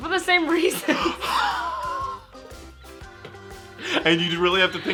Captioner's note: laughing